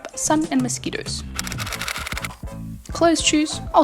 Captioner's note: typewriter style clicking